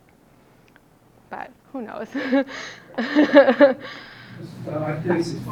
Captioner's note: laughing